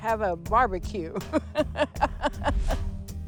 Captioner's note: laughs